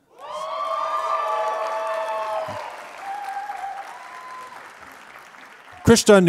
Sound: applause

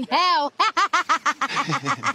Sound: laughs in, "Who's the loser now?"

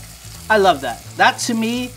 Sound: food sizzling

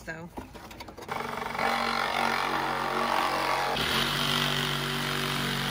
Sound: handsaw buzzing

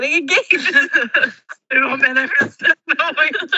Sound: laughs

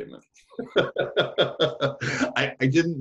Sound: laughs

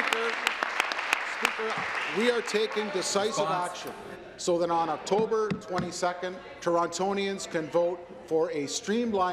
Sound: applause

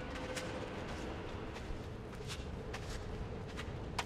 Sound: SOUND: Killik walks from the paved dirt road into the nearby doorway

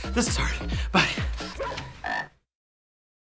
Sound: breathless; dog barks; frog croaks

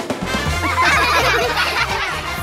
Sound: laughing

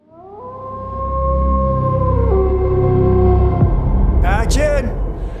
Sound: wolf howling

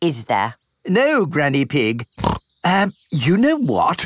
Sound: snorts

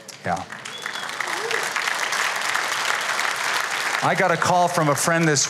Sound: applause

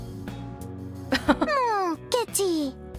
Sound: chuckles

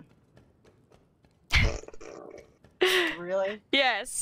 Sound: groans

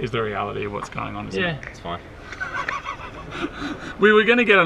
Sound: snickers

